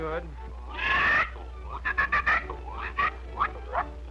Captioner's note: animal calling